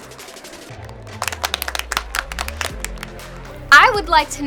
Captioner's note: applause